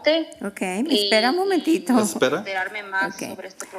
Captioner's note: speaking non-english